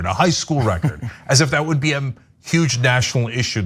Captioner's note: laugh